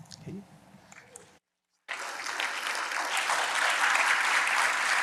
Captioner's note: applause